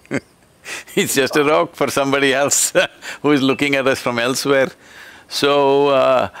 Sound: laughs

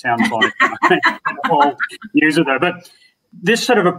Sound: both laughing

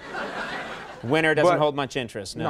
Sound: audience laughing

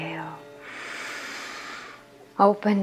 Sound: heavy breathing

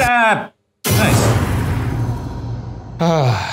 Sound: text booms; sighs

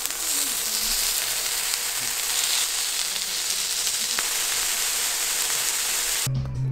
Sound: flip, flip

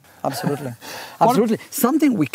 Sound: laughs quietly

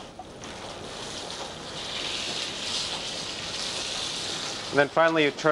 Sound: sizzling

